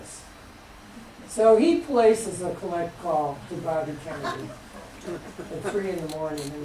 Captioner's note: laughter